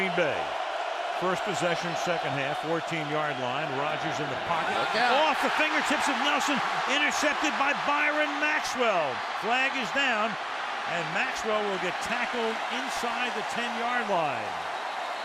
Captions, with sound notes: Now, Green Bay, first possession, second half, 14-yard line. Rodgers in the pocket. Look out. Off the fingertips of Nelson, intercepted by Byron Maxwell. [cheering] Flag is down. And Maxwell will get tackled inside the 10-yard line.